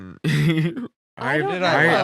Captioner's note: laughing